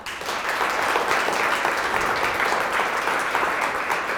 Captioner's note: applause